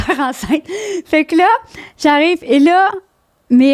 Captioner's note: in french